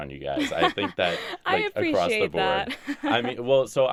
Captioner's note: laughs